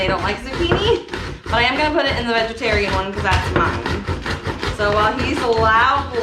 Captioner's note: loud grating sounds